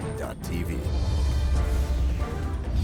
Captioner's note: voiceover